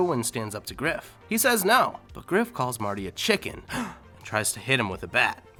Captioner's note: gasps